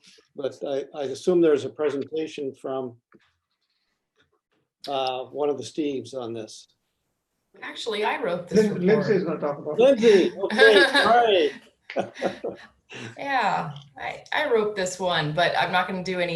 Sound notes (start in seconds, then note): 5.9 laughter